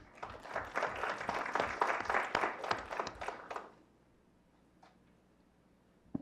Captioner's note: clapping